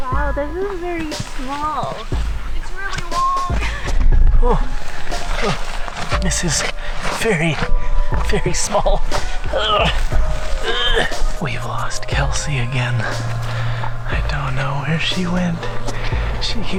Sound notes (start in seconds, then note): 9.2 makes struggling noises; 12.1 whispering